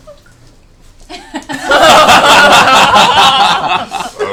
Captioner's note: laughter